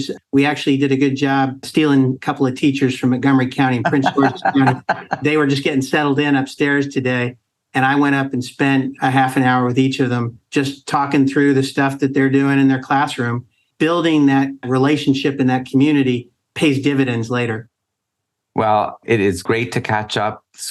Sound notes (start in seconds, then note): 3.7 laughs